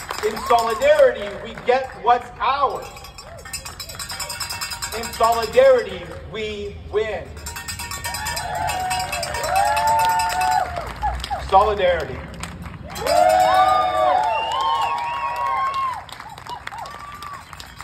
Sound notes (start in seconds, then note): 0.0 cheers; 7.9 cheers; 12.8 cheers